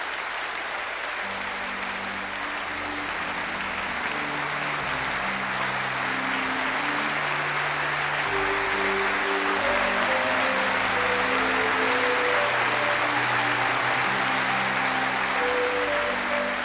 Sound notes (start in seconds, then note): 0.0 applause; 7.1 applause